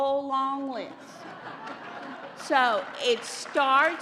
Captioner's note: laughter